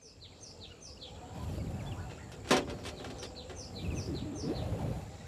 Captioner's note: wind howling